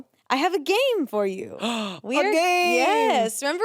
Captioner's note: gasps